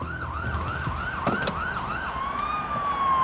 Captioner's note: sirens wail